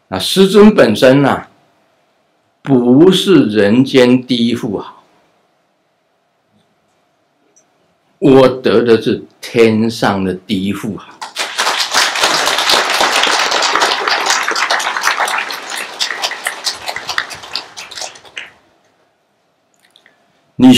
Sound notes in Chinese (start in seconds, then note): 15.3 眾鼓掌